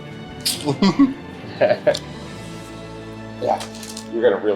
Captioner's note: laughs